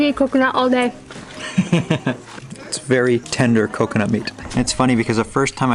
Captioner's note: laughs